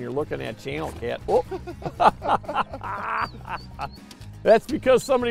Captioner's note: laughing